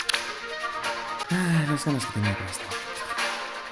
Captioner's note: sigh